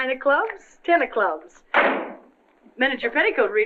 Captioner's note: door slams